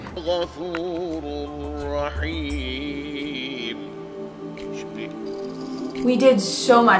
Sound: chanting

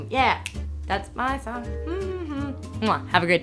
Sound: snaps fingers; hums

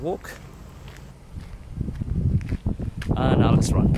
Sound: footsteps crunching; wind blowing

